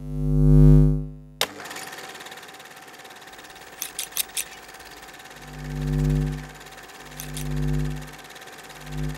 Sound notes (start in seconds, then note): 1.4 projector sound effects; 3.7 scissors clipping